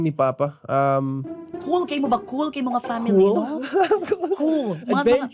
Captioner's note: chuckles